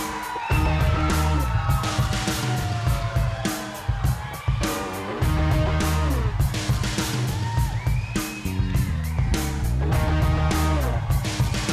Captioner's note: crowd cheering